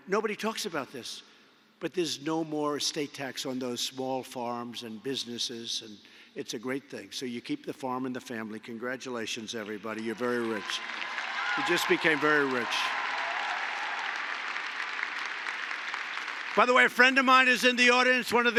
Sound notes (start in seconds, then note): 11.3 applause